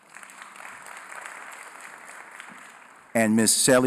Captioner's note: applause